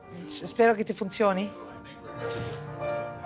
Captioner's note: speaks in Italian